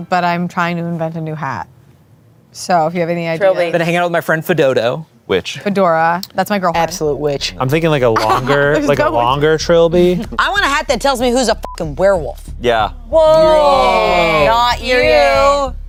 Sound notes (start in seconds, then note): 11.6 beep; 15.6 laughs